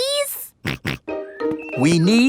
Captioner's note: snorts